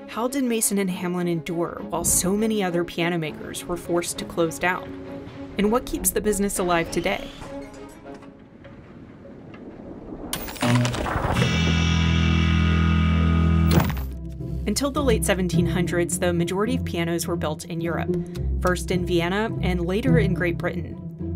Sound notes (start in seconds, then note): 8.9 air whooshing; 10.8 light music